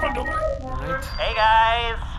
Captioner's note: beeping as comms link is established